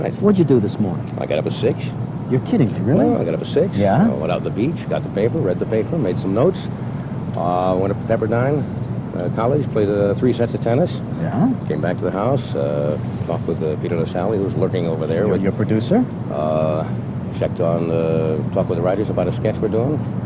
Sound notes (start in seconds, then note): none